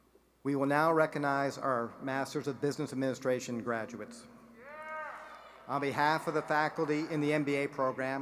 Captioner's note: applause